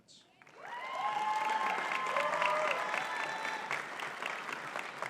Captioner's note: audience cheering and clapping